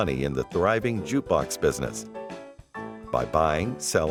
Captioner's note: none